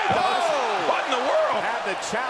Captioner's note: commentators exclaim